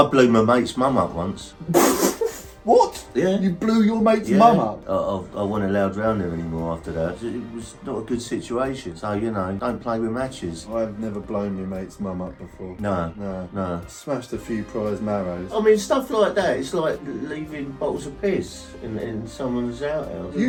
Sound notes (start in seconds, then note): 1.7 laughing